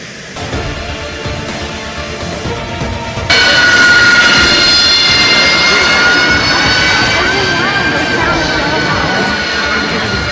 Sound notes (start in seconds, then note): 0.5 adventurous music continues; 3.6 jet engine whistling; 7.1 people chattering